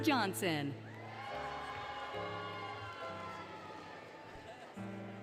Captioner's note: applause, Cheering, Music; applause, Cheering, Music, Laughter